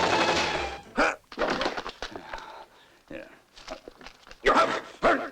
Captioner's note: grunting